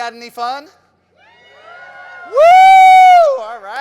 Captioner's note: crowd cheering